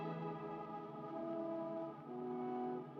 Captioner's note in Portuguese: grito